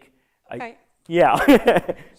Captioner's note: laughter